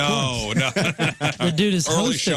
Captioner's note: laughing